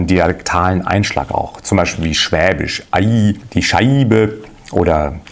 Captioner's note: southern German dialect